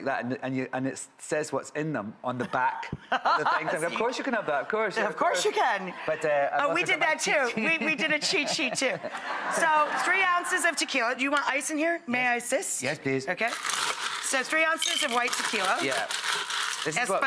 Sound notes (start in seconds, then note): 9.1 audience laughs